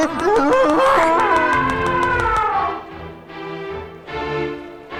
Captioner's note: trompeta de elefante